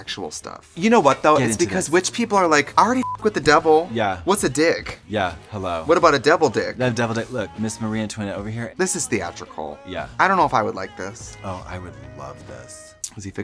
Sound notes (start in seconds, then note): 3.0 beep